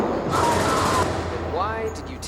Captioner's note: gun firing; explosion booming; screaming